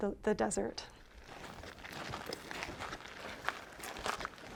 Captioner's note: feet stomping